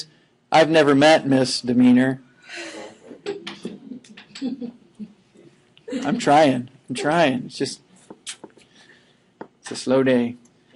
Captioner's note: laughing